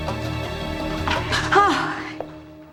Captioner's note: gasps